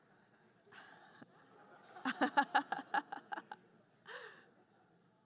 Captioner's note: group chuckling